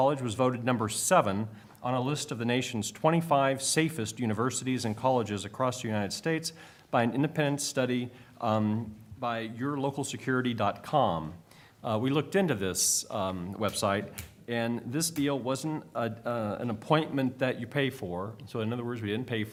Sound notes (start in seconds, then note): none